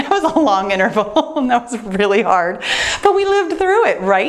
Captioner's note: laughs